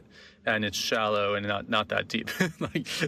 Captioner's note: laughing